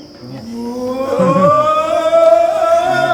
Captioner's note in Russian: крики